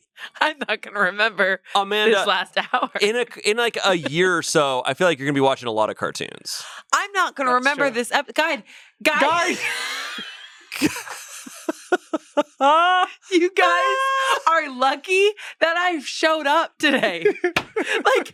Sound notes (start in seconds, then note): 0.3 laughs; 9.1 laughs